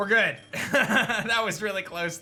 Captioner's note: laughs